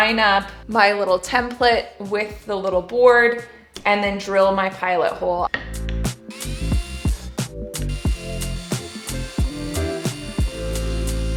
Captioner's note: drilling